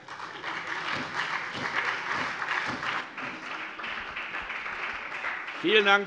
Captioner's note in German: Beifall SPD